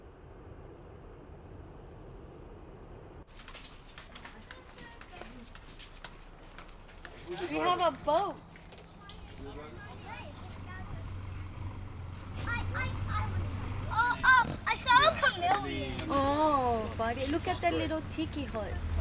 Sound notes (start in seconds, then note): 3.3 feet thudding; 9.3 people chattering indistinctly